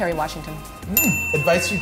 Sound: bell dinging

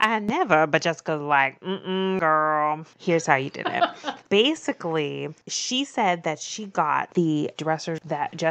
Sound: laughs

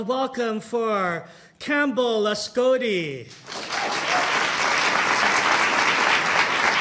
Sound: audience applauding

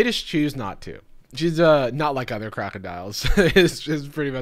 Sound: chuckles

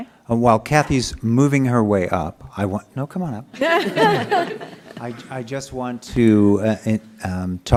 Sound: laughter

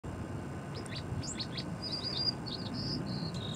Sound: birds chirping

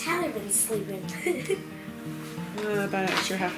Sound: laughing

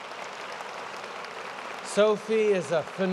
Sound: applause

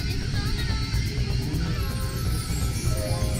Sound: speaking Japanese

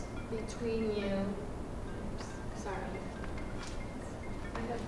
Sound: phone ringing

